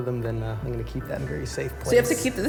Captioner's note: laughing